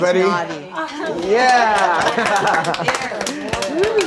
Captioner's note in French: le groupe applaudit